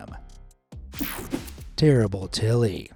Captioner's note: screen whooshing